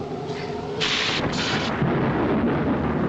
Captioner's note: thunder rumbling